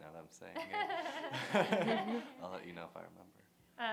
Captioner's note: laughter